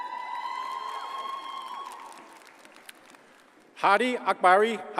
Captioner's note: audience cheers and applauds